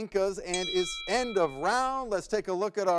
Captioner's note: timer dings